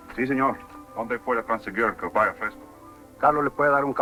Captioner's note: speaking french